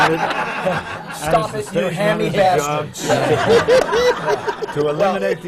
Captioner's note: laughs; laughter